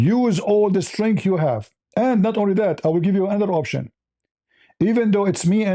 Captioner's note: none